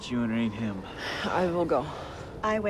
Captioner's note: sighs